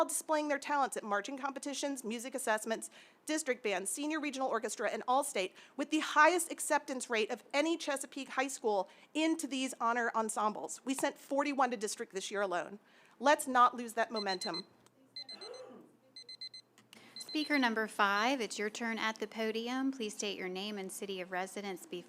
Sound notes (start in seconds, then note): 15.1 timer beeping